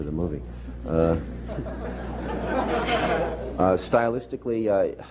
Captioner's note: laughter